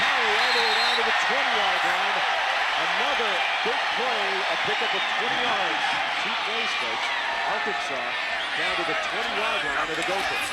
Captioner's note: cheering